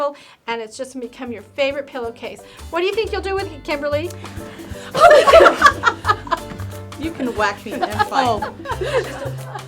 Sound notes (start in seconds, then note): 4.8 all laughing